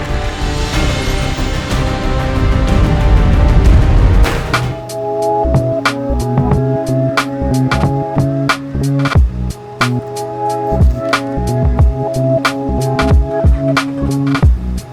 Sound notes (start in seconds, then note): 0.1 cinematic music; 4.6 rag falling; 5.4 upbeat music; 9.3 water splashing